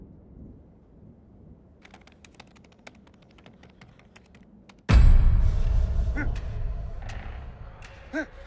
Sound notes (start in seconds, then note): 1.8 keyboard clicking; 4.9 dramatic music